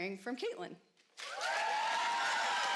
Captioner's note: applause